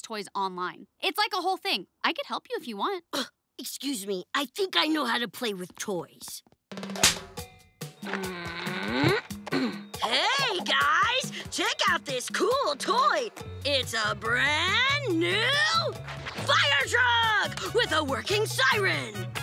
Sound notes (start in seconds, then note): 8.0 groaning